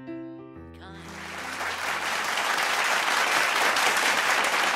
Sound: applause

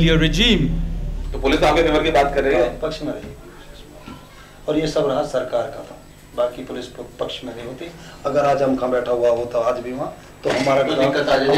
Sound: non-english speech

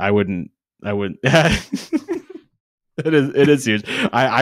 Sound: laughs

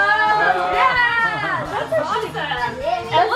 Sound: all crying out in faux disgust

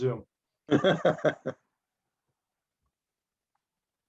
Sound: laughing

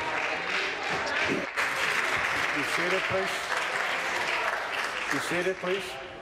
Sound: applause

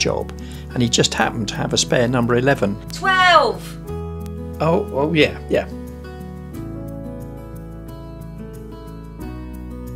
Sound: shouts

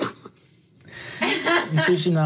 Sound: laughing

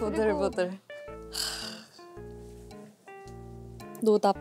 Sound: deep sigh

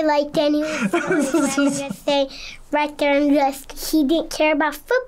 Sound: laughs

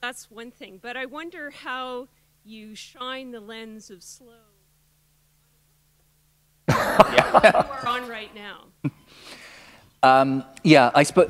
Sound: laughter

